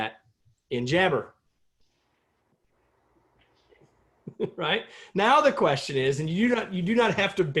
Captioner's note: laughter